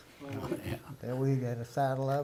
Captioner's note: murmurs